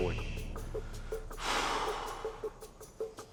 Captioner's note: sighing